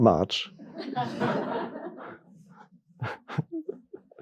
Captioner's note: audience laughing